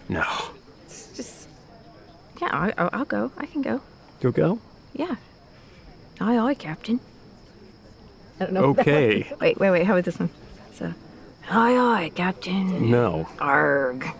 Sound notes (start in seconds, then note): 11.2 imitating pirate